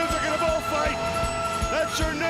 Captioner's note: crowd cheering